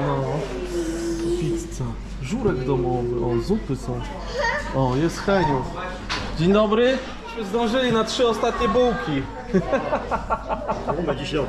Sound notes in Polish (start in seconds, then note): 9.4 śmiech